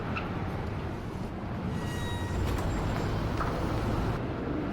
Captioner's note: traffic roaring